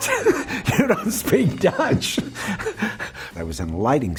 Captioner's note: laughs